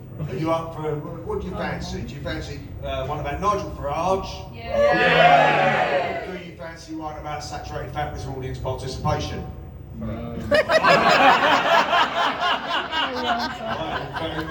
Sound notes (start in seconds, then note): 4.6 audience shouts "yeah!"; 10.4 laughter